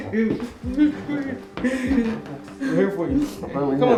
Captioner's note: crying